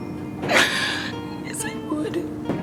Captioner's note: crying